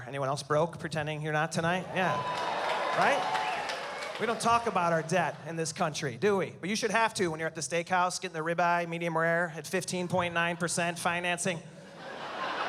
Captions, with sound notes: pretending you're not tonight? Yeah. -[cheering] -Right? We don't talk about our debt in this country. Do we? But you should have to when you're at the steakhouse getting the ribeye, medium rare, at 15.9 percent financing.